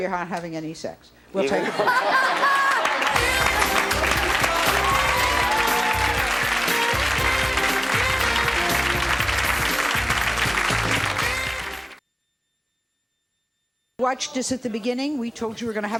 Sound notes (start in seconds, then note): 2.9 laughing; 5.3 audience applause; 5.3 jazzy music